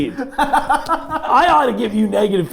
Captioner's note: laughing